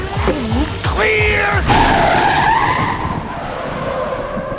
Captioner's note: tires screeching